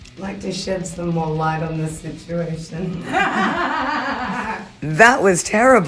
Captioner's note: cackles loudly